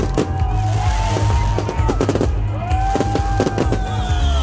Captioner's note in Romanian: Aplauze